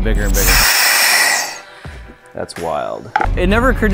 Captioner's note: pressure hissing